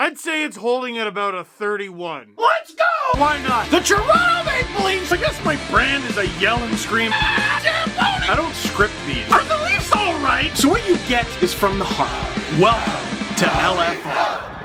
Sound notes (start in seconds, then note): 2.4 rock music plays throughout intro; 7.2 screams